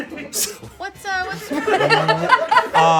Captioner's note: laughter